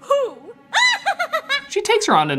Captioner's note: laughs